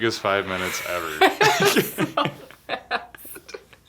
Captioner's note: laughing